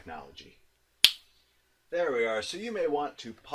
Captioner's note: snapping fingers